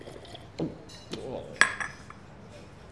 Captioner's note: gulps